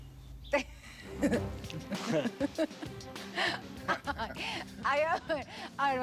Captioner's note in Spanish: risas